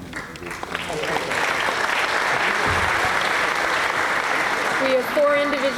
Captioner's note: applause